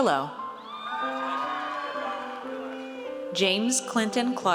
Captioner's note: audience cheers